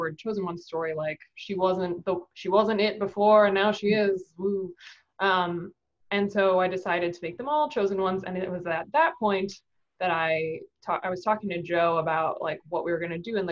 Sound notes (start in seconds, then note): none